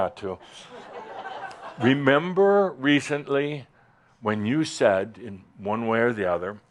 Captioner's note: more chuckles